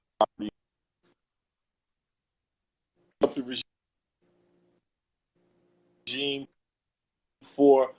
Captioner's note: glitch